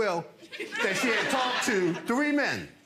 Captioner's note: audience laughs